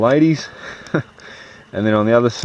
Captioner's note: laughs